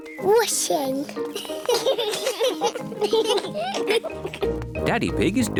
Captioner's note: children giggling